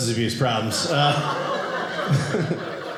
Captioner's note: audience laughing